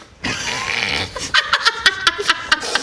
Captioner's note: nice-try laughter